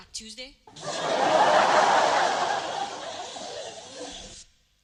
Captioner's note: laughter